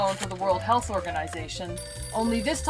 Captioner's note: phone rings